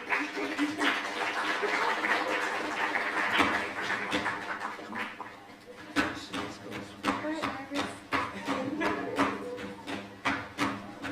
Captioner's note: applause